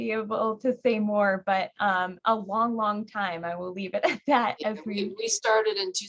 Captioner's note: laughing